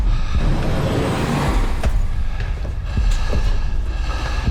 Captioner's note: Evan whooshing